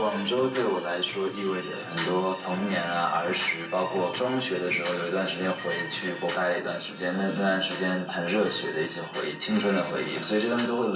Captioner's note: speaking Chinese